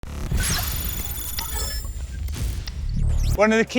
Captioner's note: logo thrums